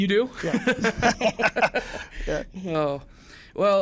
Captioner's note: laughs